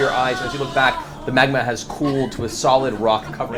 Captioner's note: all laugh